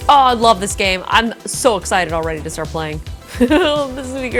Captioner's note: laughs